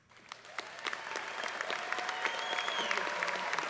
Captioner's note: applause